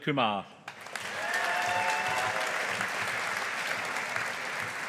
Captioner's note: audience applauding